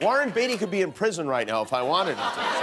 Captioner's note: laughter